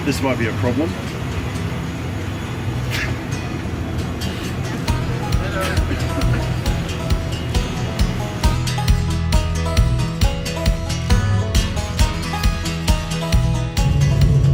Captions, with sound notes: Alright, this might be a problem. (laughs) (upbeat music)